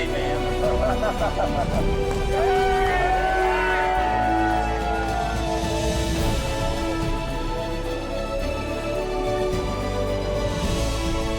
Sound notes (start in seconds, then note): 3.2 cheering